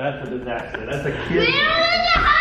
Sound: laughter

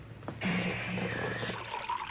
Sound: gurgling

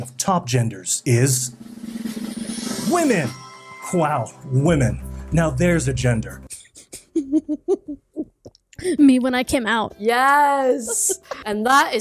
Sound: giggles

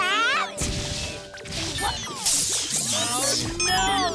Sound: whirring & Booming

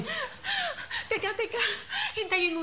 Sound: sobs

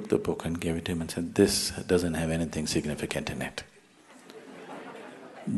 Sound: laughter

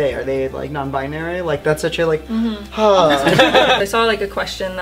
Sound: laughter

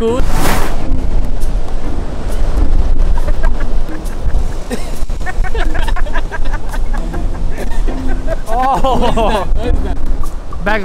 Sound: ضحك

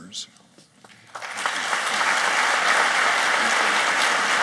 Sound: applauding

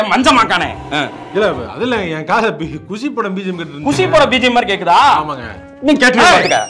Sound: train leaves

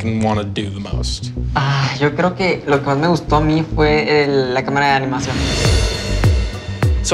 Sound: speaking Spanish; tense upbeat music

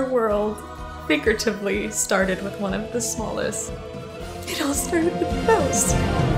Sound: voice breaks

